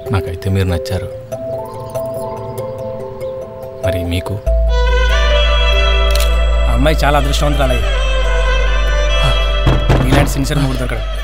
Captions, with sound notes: I like you. Do you like me too? [camera clicks] The girl is very lucky, man. [sighs] [door knocked] She got a sincere husband like you.